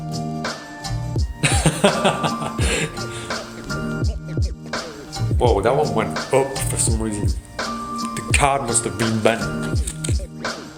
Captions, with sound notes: (laughs) Wow, that one went up for some reason. The card must have been bent.